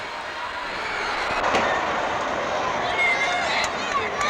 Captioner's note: crowd exclaiming; crowd chattering